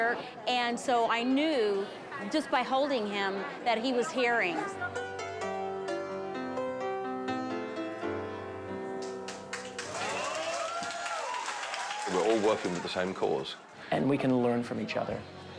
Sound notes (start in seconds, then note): 4.7 lively piano music; 9.4 cheers and applause